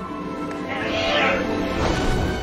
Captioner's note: squawks